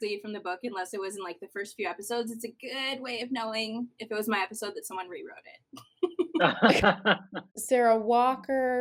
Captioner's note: laughter